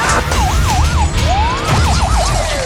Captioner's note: screams; sirens blaring